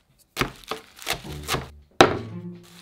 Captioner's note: knife chopping